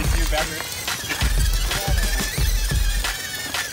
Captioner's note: laugh